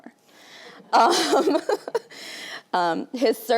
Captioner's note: laughing